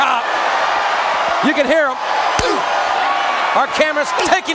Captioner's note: crowd cheering